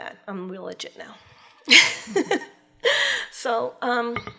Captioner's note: laughs